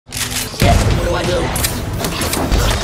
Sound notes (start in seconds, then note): 0.5 gun firing; 1.9 bodies clashing